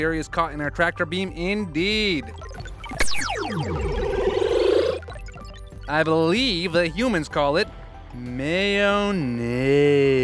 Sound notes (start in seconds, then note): 2.4 beeping noise; 3.1 tractor beam noise